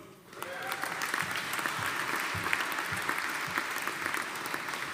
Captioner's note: audience applauding